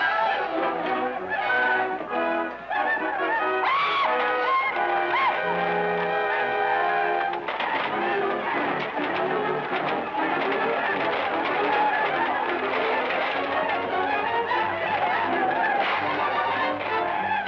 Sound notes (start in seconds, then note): 0.1 suspenseful music; 3.8 natives shouting; 8.0 suspenseful music